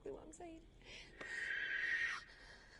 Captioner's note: monster screeching in distance